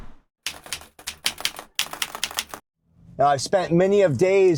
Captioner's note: keyboard keys clicking